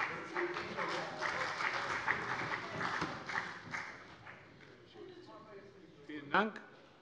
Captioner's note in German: Beifall bei der CDU und dem BÜNDNIS 90/DIE GRÜNEN